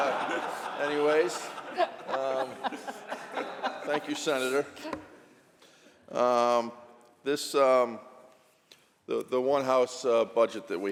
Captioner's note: laughter